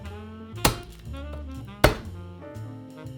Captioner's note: knife smashing